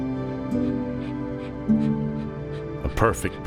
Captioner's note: gentle music; Clementine panting